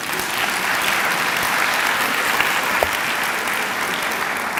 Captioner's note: clapping